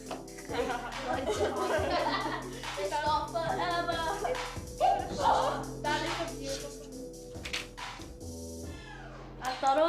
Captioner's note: giggles, music continues